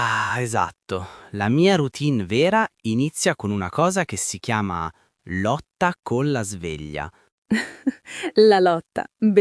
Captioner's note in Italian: risate